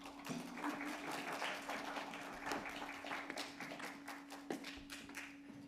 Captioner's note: audience applauds